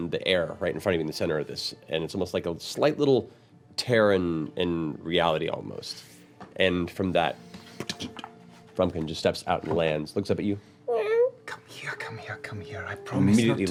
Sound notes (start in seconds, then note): 11.9 meows